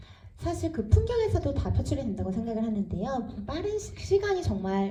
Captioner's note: speaks in foreign language